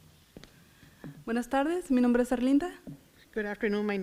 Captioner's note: foreign language